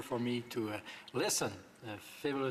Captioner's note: speaking French